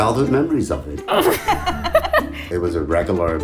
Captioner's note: both laughing